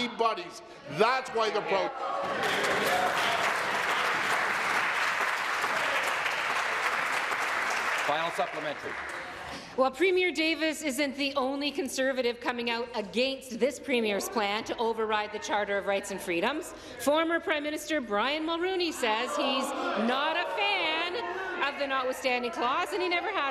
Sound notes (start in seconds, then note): 6.1 applause